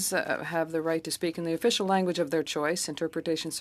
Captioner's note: speaking French